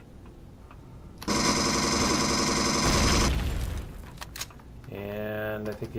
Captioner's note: explosion; pulse rifle; reloading